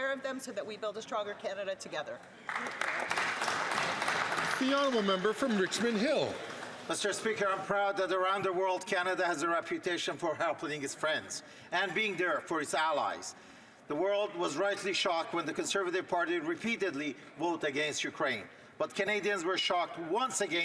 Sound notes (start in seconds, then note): 5.9 some Applause